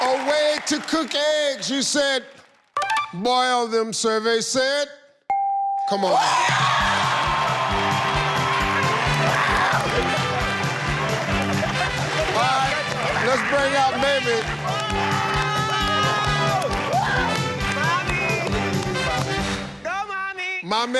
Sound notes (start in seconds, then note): 5.3 bell chimes; 7.1 audience cheers; 16.4 game show music continues